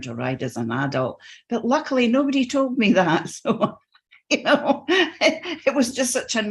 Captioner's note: laughs